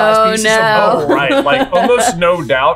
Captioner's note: laughing